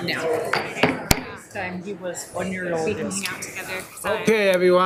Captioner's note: gavel thudding